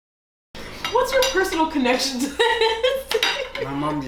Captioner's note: laughter